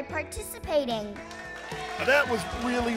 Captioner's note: cheering